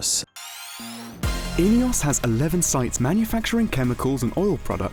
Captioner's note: male Voice